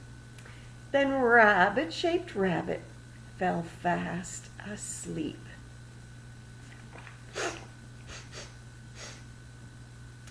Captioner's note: begins sniffing the air